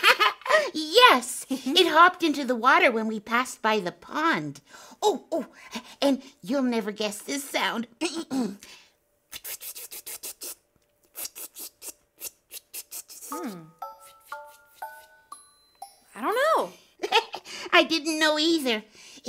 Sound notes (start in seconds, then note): 8.4 clearing throat; 10.0 flitting noises